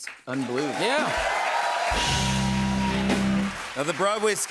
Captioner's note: cheers and applause